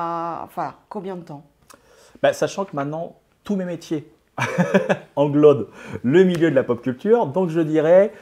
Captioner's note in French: Rires